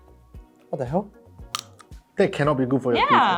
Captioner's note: skillful cracking